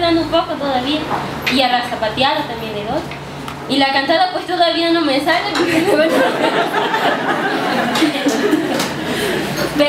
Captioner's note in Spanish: risas